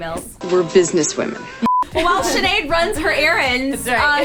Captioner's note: air whooshing